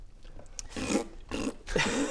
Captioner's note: pffpt